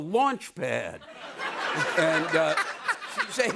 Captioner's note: laughter